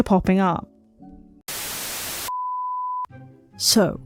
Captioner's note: static